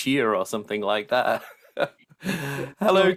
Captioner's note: laughs